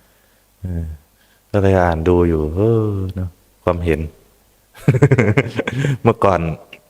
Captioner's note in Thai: เสียงหัวเราะ